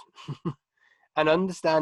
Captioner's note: chuckling